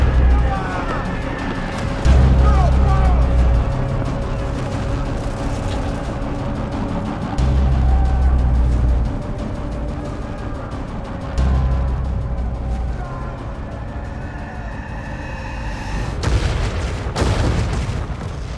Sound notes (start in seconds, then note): 0.1 gunfire; 0.1 shouting; 8.3 sounds of battle; 16.2 cannon fire